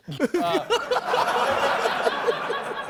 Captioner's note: laughter